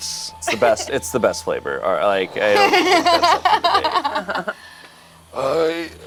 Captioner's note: laughs